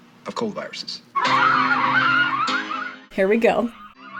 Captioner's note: screaming